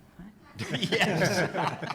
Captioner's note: laughing